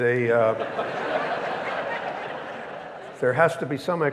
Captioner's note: audience laughing